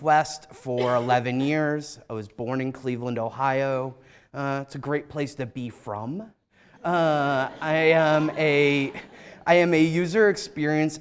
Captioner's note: laughter